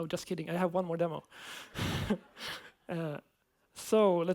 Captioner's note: laughs